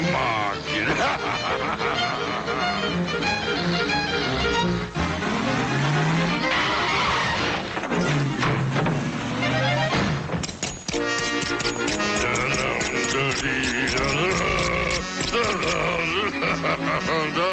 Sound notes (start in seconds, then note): 0.1 butcher laughing; 2.1 frenzied music; 5.5 brakes squealing; 7.4 gate slamming; 10.4 knives clicking; 11.0 butcher humming; 14.5 dramatic music